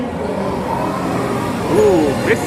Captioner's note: wind whooshing